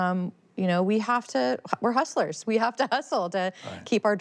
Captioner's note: chuckles